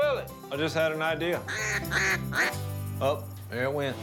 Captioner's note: quacking